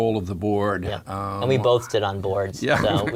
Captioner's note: laugh